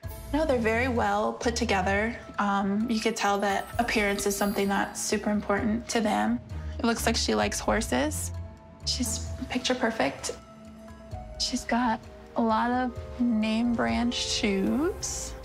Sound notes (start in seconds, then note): none